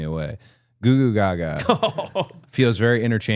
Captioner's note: Jimmy laughing